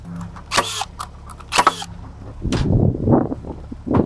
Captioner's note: tool buzzes